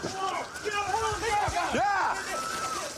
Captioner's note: officers yelling